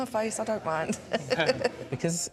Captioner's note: laughs